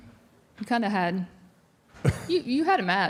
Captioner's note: Mark laughs